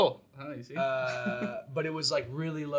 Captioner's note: chuckles